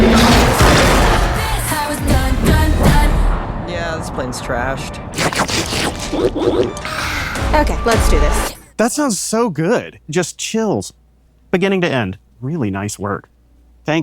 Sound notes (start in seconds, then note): 5.1 food slurping